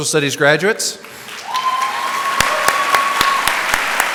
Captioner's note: applause